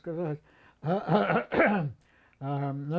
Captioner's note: clears throat